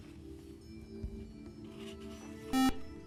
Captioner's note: beeping